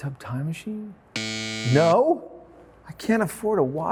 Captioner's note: buzzer buzzes